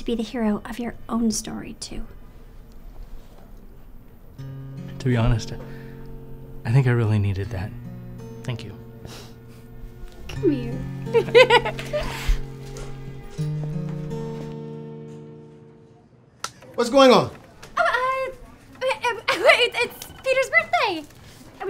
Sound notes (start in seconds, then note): 11.0 laughs; 12.2 heartfelt music